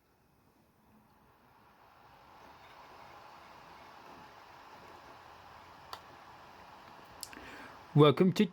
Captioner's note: laptop dvd drive spinning